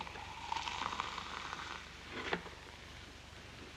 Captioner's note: liquid fizzes